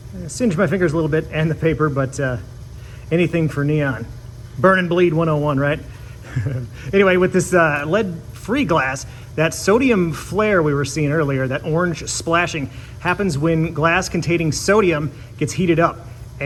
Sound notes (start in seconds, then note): 6.0 chuckles